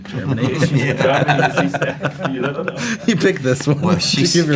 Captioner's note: laughing